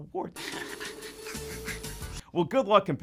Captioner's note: laughing